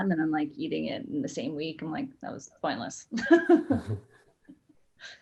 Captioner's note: laughs